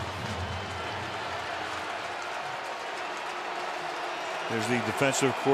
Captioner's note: cheering